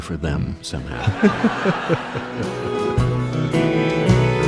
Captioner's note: laughing